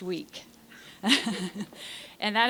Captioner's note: laughter